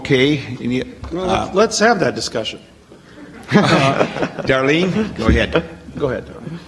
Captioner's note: audience laughs